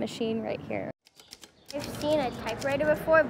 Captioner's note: keying typewriter